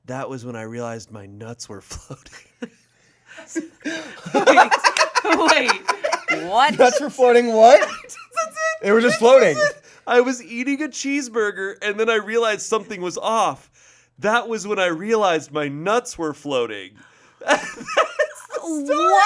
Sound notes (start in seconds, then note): 3.4 group laughing